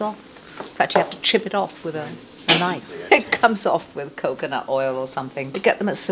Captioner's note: laughing